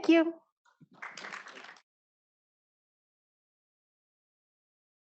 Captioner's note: audience applauding